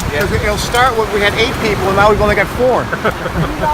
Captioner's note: laughter